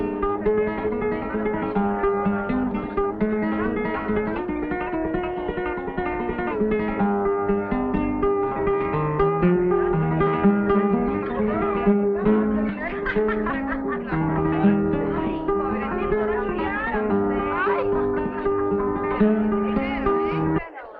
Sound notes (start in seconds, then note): 0.1 lively Spanish guitar music; 13.3 dancers laughing